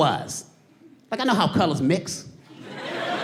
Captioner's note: audience laughing